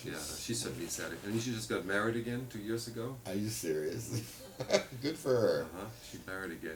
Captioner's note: laughs